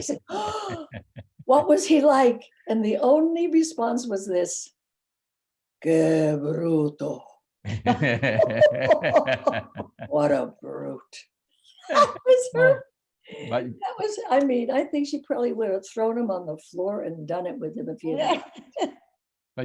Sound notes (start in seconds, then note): 5.8 speaking in foreign language; 7.6 laughing